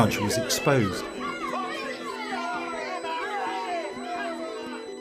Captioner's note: people shouting